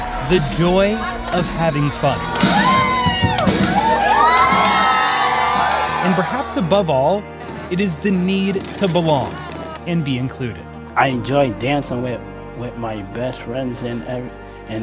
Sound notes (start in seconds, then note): 2.4 upbeat music; 4.7 crowd cheering